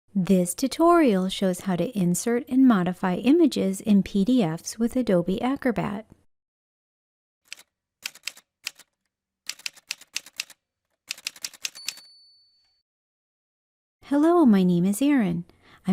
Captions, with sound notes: This tutorial shows how to insert and modify images in PDFs with Adobe Acrobat. [Typewriter sounds] Hello, my name is Erin.